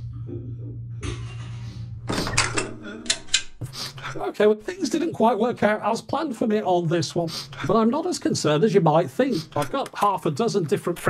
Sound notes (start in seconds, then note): 0.1 sad Techmoan noises; 4.4 weeping